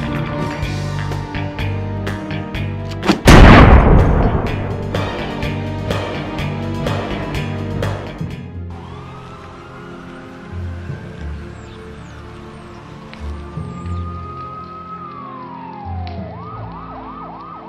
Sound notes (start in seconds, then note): 0.0 groovy music; 3.1 gun firing; 8.9 dramatic music; 8.9 siren blaring